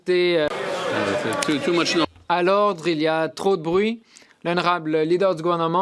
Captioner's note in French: voix de l'interprète